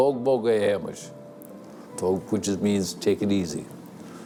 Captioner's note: speaking Gaelic